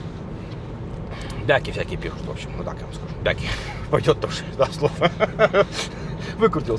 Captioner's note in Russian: смех